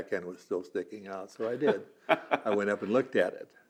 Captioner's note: laughs